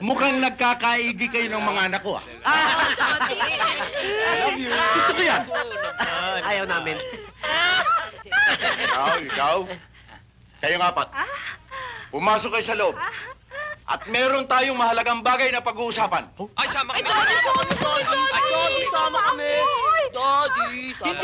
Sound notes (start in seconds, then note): 2.4 laughing